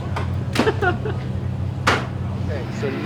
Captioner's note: laughing